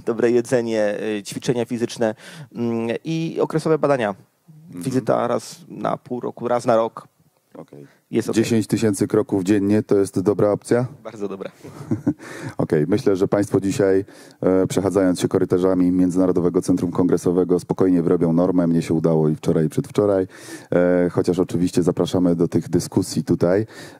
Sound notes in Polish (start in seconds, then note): 11.7 śmiech